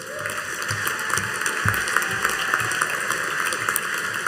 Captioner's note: audience applauding